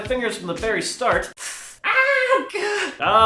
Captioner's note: assorted sounds of pain